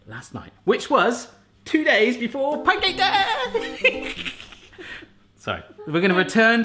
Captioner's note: laughs